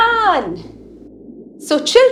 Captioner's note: underwater sounds